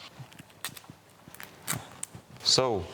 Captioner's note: tape ripping noises